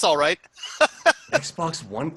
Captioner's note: laughs